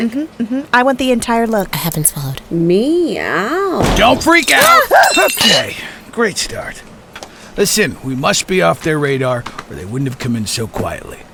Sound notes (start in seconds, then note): 4.8 they scream